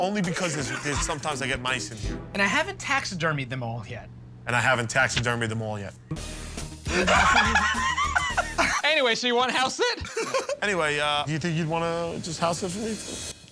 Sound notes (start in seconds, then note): 6.9 laughter